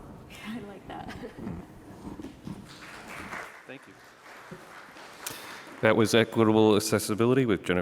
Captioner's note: applause